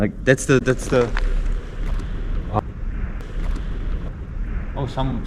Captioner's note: sound of cars in the distance